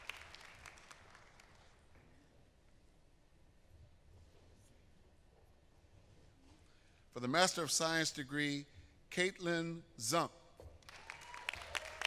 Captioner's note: applause